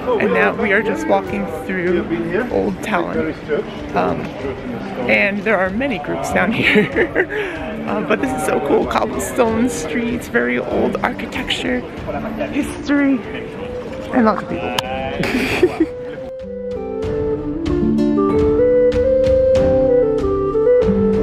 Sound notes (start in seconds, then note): 6.5 lols; 14.5 lols; 17.4 relaxing pan flute music